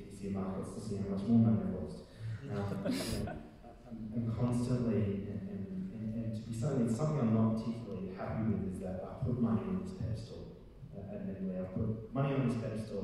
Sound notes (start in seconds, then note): 2.7 audience laughing